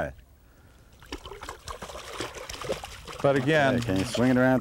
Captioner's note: splashing